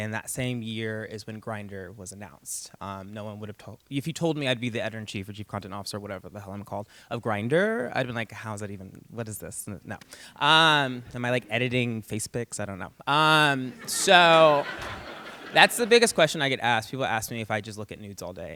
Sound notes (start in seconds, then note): 13.6 laughter